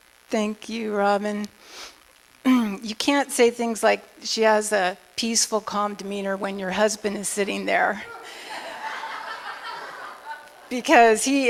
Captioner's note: laughter